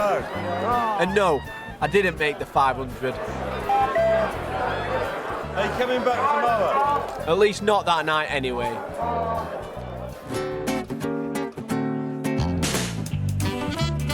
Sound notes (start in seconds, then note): 3.6 cuckoo hoot; 9.7 lighthearted instrumental music